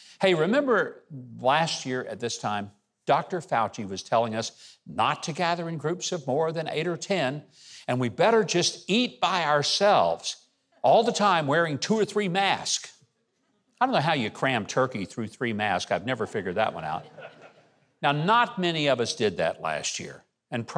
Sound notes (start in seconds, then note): 16.2 audience laughs